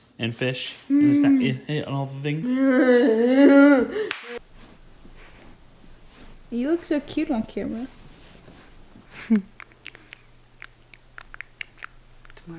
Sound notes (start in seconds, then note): 4.0 claps; 9.3 lips smacking